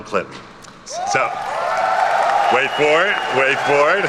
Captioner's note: attendees cheer and clap